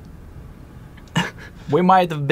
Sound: chuckles

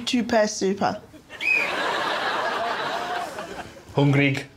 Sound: whistle blows; speaking Swedish

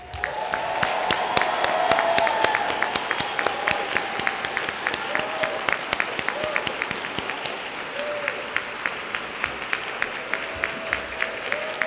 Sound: applause

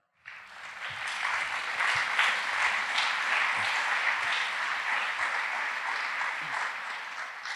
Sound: applause

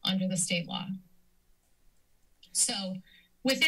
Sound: silence

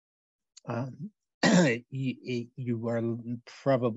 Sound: clears throat

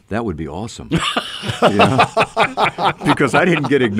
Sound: co-hosts laugh

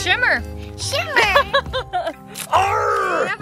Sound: laughs

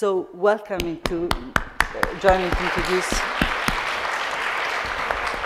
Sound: audience clapping

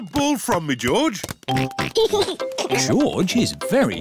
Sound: oinks and giggles

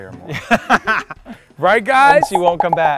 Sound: laughs

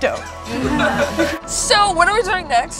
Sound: laughing

